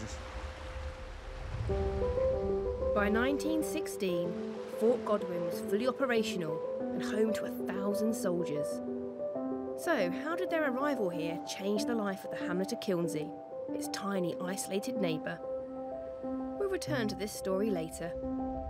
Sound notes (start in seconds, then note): 4.0 gentle piano music; 4.0 waves splashing